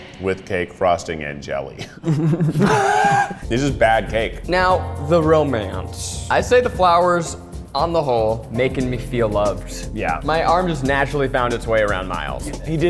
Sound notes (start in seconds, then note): 1.8 giggles; 1.8 laughs